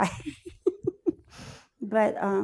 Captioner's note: laughs